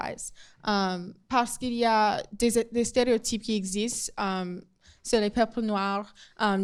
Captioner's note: speaking in foreign language